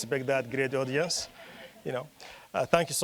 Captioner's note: audience laughing